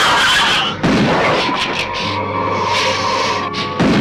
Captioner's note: gun firing